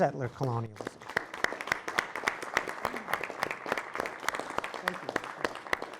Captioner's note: applause